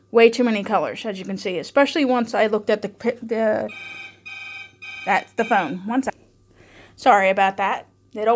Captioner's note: phone Rings